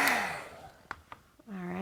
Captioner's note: heat tool whirring